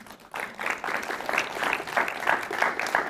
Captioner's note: applause